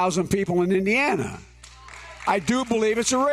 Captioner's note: applause